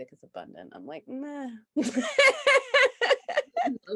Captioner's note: laughs loudly